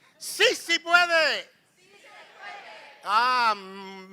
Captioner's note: non-english speech